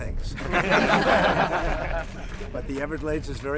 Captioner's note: laughter